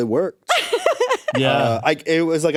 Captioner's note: laughs